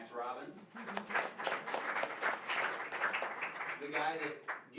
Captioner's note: applause